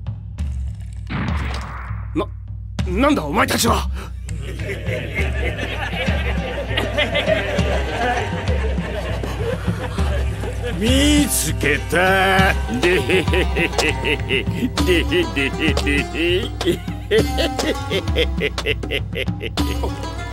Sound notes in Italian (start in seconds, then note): 4.3 ghigni e risate